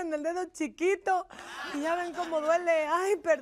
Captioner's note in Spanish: Risas